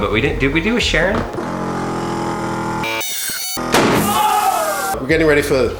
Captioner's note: machine roaring; loud pop and yelling